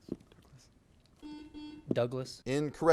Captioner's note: buzzer buzzes